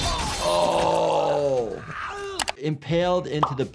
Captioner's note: Green Goblin groans